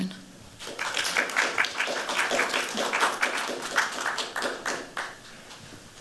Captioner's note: applause